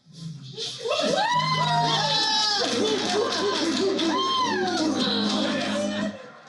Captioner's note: cheering